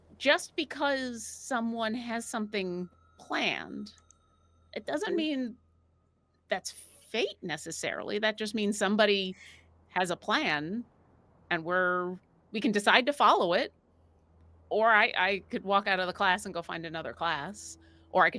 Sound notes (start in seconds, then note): none